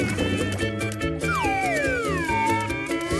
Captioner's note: whistling